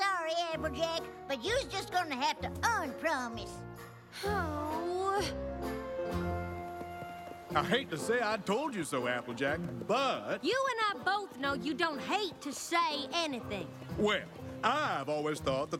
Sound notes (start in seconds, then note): 4.1 sighs